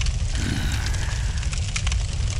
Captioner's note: sigh